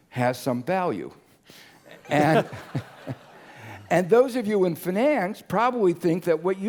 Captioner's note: laugh